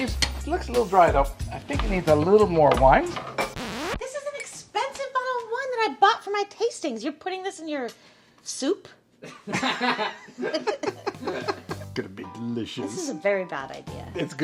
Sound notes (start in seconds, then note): 3.7 dramatic music; 9.5 everyone laughing